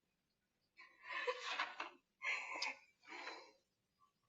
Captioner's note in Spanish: Solloza